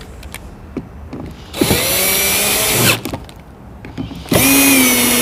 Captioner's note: drill whining